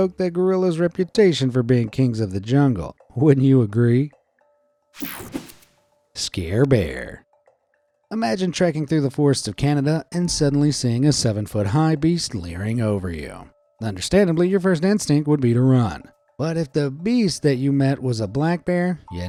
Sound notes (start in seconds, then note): 5.0 screen whooshing